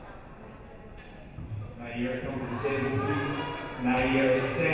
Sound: crowd murmuring

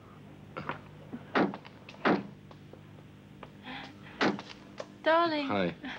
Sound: doors clatter

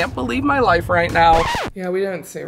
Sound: record scratch

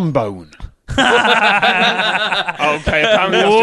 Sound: laughter

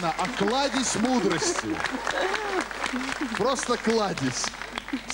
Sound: laughter

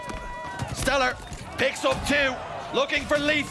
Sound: crowd gasping; gunfire banging

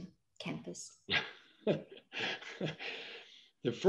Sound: chuckles

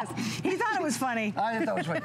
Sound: laughter

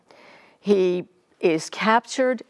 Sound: none

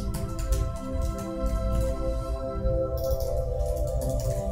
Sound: keys clacking

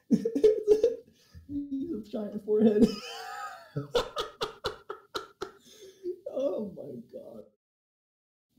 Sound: wheeze

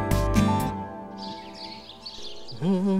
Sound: birds chirping

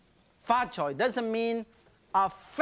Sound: speaking in foreign language

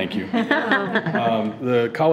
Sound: chuckling

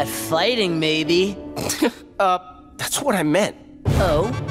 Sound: chuckles

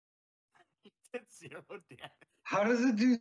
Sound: chuckling

